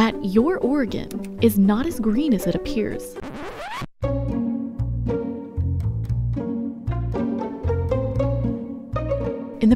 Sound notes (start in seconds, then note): 3.2 rewind sound